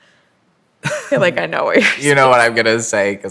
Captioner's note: chuckles